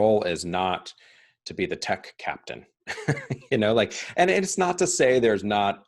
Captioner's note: chuckling